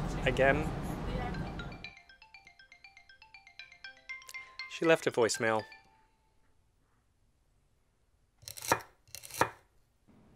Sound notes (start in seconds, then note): 1.1 cell-phone joyful tune